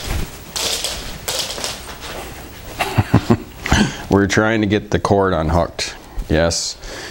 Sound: chuckling

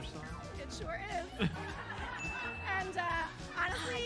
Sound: laughter

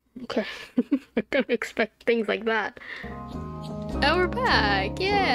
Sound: laughs

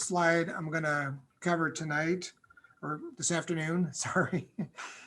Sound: laughter

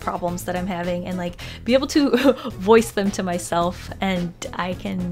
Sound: chuckles

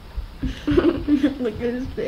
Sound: laughing

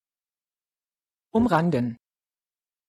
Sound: fast Pronunciation

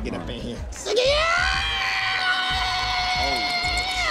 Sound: screams

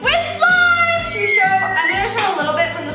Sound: whistles

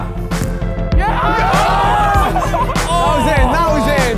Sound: group cheers

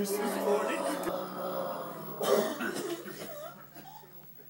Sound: groaning and coughing

